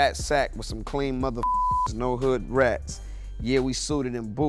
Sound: beep

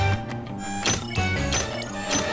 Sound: digital beeping

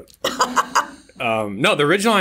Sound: laughs

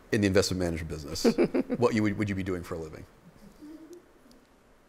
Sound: laughter

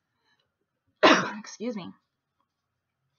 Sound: coughs

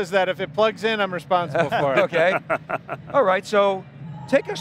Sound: laughs

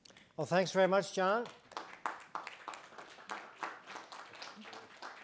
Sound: audience applauding

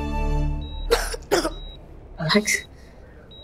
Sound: coughs

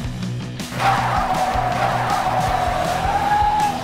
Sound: skidding

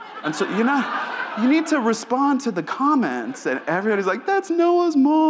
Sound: audience laughs

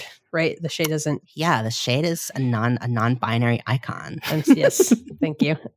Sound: laughing

